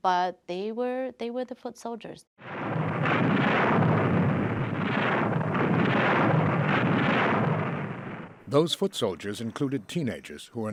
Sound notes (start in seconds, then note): 2.4 shells exploding